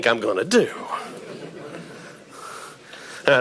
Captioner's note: audience laughing